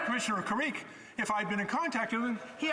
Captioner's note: conversation din